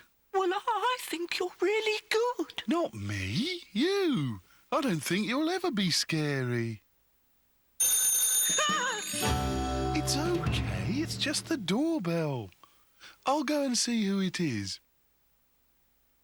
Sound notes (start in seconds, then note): 7.8 doorbell rings